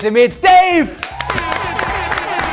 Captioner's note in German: Jubel, Applaus